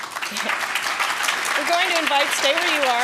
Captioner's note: applause